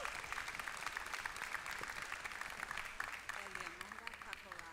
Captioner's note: applause